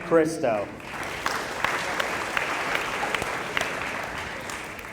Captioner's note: applause